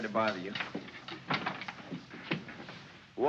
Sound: door closes

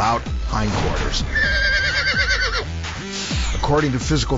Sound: horse neighs

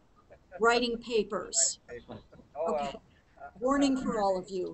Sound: laughs

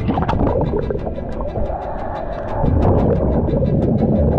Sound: water gurgling

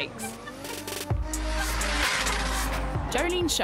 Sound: tires screeching

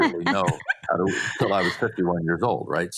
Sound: all laughs

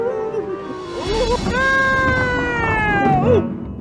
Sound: yells

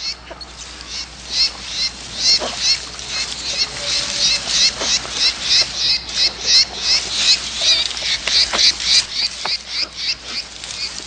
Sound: birds chirping

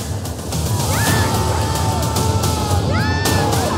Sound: yelling

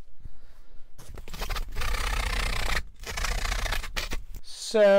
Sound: foam squeaking

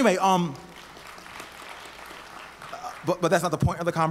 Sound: audience applauds

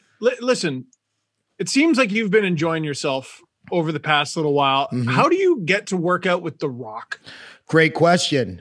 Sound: laugh

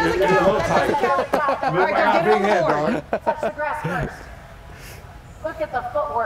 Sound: laugh

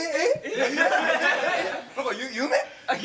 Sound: laughter

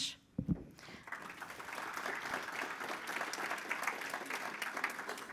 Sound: audience applauding

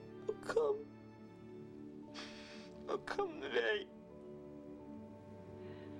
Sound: crying

